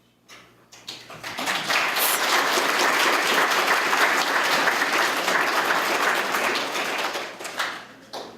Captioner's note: applause